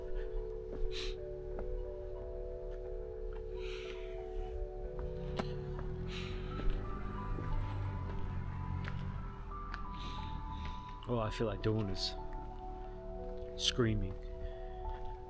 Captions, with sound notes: (sniffles) (sighs) Oh, I feel like doing is screaming.